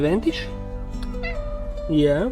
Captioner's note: meows in approval